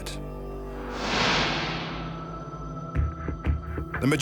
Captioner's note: smoke whooshes